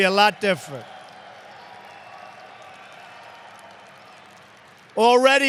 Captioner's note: applause